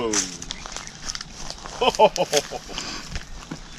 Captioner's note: laughing